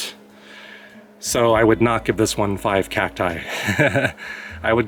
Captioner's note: laughter